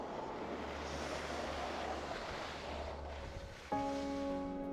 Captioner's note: skis swishing; gentle music